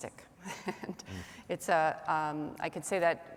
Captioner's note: laughing